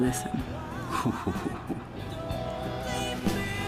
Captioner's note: chuckles